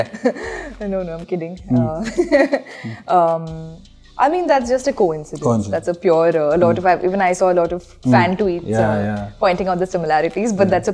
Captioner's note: laughs